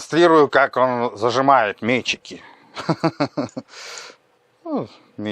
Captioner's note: laugh